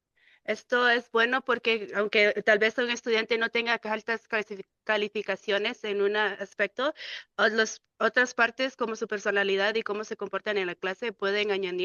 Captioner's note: speaking in Spanish